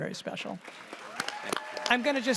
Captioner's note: audience applauds, cheers